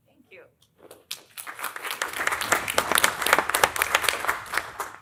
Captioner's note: applause